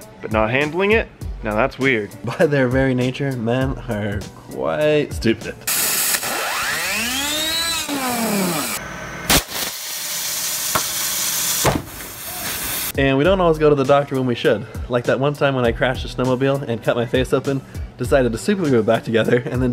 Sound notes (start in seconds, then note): 5.6 buzzing; 9.3 spraying